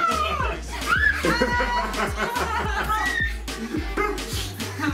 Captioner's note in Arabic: ضحك